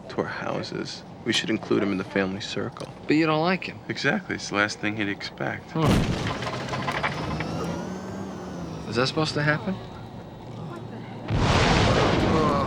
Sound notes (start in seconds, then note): 5.8 loud clatter; 12.4 loud roar